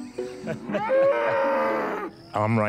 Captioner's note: man laughing; animals chattering